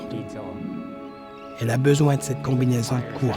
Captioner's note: seabirds crying